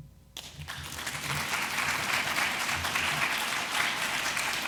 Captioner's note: audience applauds